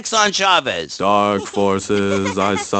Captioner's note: as Jenny continuously laughs